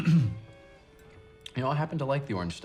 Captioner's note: clears his throat